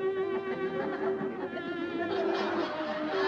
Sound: laughter

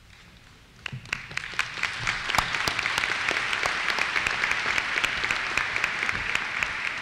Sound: applause

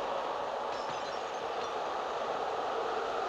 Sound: bottle shatters

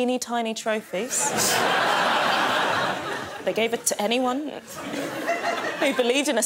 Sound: audience laughing

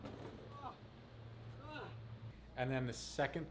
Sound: grunting

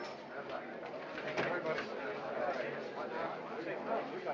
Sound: crowd murmuring

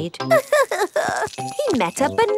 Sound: crying

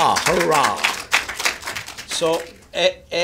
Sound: applause

